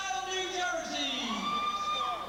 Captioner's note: crowd cheering